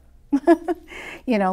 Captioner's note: laughs